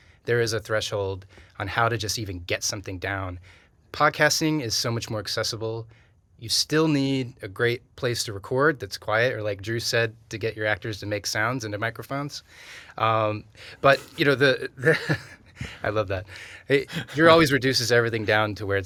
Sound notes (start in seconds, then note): 14.8 chuckles